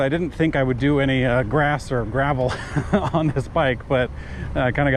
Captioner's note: laughs